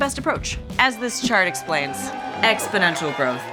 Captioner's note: crowd cheering